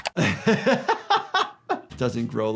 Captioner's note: laughs